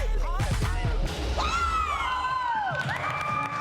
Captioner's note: whooping, cheering